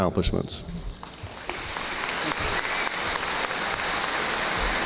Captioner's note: audience applauding